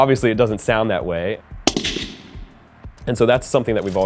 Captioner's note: gunshot